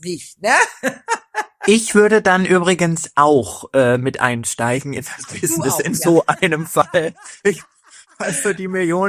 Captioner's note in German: gelächter